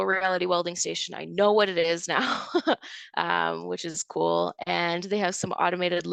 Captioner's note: chuckles